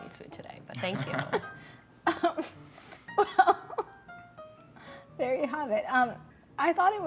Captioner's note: laughing